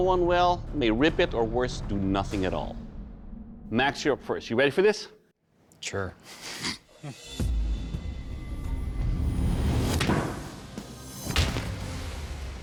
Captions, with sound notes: may rip it, or worse, do nothing at all. Max, you're up first. You ready for this? Sure. [chuckles] [thudding]